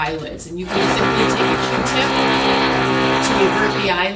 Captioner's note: tool motor whirring